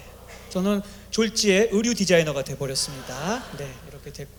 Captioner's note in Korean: 웃음